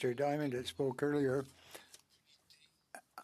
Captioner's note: speaking French